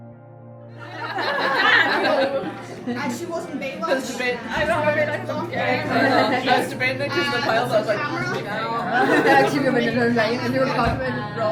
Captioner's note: laughter and background conversation